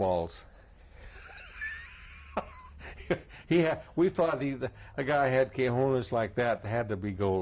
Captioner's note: laughs